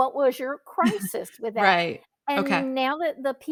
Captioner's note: chuckles